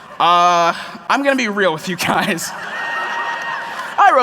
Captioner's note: laughter